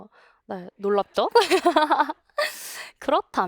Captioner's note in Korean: 웃음